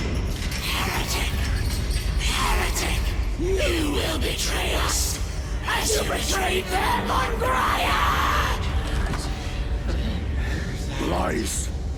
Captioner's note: screaming